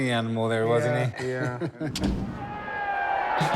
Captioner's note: laughs